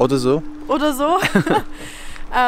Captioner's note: laughing